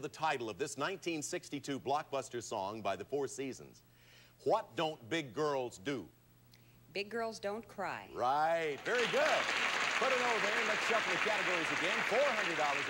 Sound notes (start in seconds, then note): 8.7 audience applauding